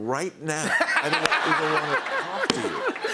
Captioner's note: laughter